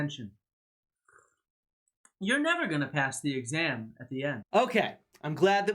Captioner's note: slurps sip